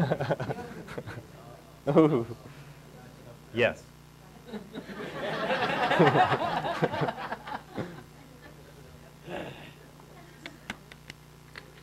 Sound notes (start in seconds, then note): 0.0 laughing; 4.5 audience laughing